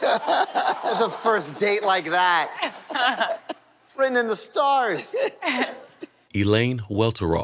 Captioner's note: laughter; laughter